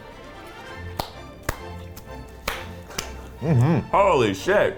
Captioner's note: claps